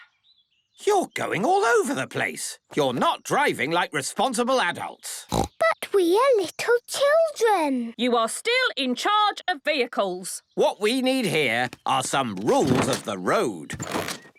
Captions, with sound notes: You're going all over the place. You're not driving like responsible adults. (snorting) - But we are little children. - You are still in charge of vehicles. - What we need here are some rules of the road.